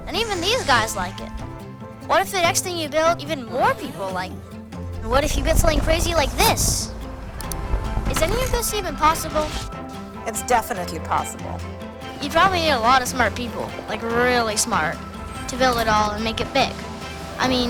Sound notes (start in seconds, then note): 6.9 lively music; 7.4 mouse clicking